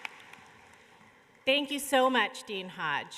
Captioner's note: applause